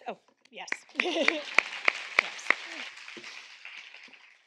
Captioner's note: audience clapping